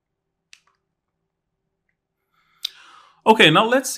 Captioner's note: remote clicking